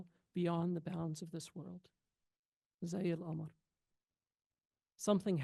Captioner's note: speaks foreign language